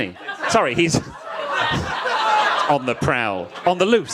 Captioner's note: audience laughs